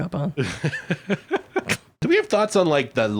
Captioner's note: laughing